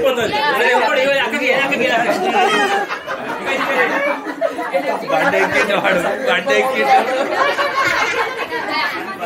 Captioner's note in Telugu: నవ్వు